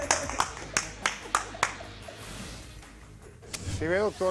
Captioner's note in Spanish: Aplausos